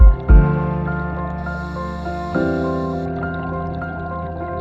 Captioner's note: water splashing